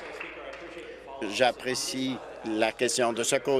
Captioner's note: applause